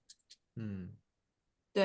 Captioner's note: nonverbal grunt as interjection